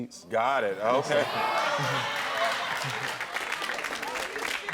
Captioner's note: audience applaud